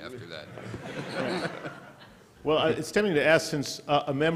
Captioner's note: laughter